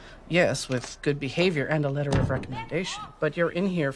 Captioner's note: bang